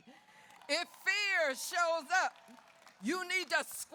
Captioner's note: audience cheers